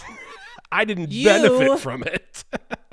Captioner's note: laughing